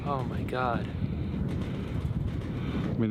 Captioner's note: wind whooshing